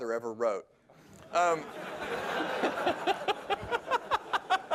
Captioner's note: laughter